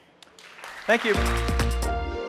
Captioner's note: applause